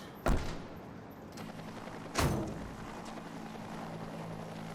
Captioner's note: helicopter flying